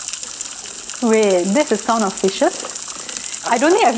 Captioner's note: sound of fishes